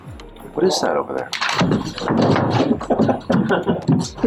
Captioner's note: scrambling sounds and laughter